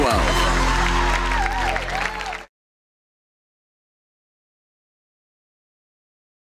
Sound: audience cheering; audience applauding

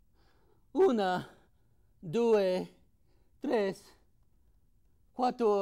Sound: speaking in foreign language

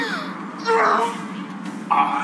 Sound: groans

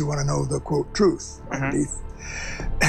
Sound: clears throat

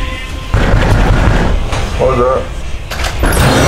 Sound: ominous music playing; door banging; ominous music playing

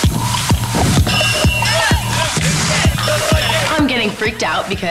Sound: contestants yelling; bell rings

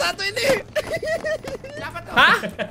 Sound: laugh

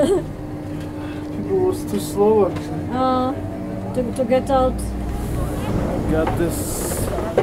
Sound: indistinct chatter

